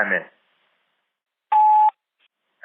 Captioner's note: sfx: beep, new message